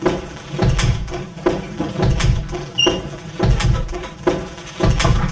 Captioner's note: machinery clanks